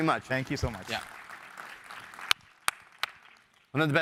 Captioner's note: background applause continues